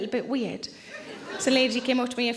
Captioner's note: audience chuckles